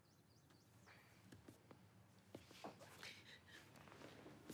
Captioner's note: Margret sobbing